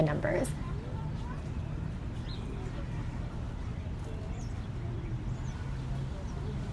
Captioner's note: birds chirping